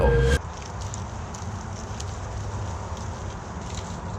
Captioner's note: tree rustling